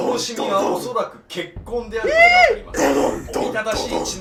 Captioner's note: screaming